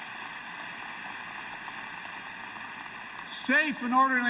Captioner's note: applause